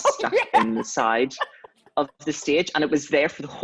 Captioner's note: laughs